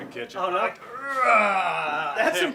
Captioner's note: groaning